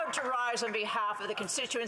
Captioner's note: speaking French